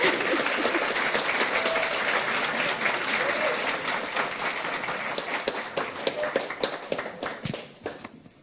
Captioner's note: applause